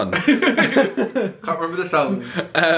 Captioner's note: pair laughs